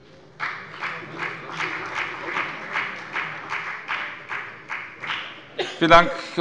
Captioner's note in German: Beifall bei der FDP